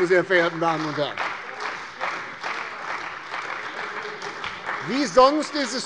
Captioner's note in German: Beifall bei der CDU und dem BÜNDNIS 90/DIE GRÜNEN